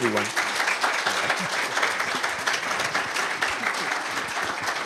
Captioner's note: applause